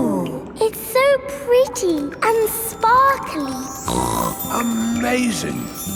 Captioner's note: snorts